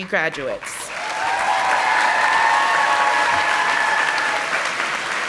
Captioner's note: audience applauding